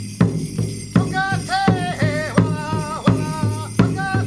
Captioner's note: chanting in native american language